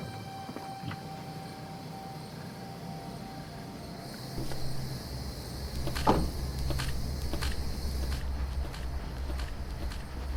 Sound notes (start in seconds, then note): 2.0 insects chirping; 5.8 dramatic music